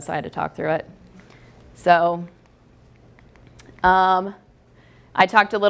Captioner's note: pause